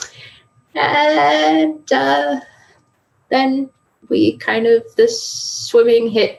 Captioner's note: laughs